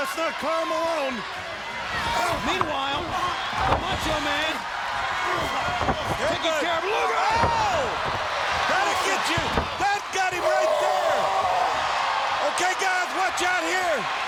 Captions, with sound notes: Well, that's not Karl Malone. Meanwhile, the Macho Man, taking care of Luger! Oh! That'll get you! That got him right there! (The Giant yells) Okay, guys? Watch out here!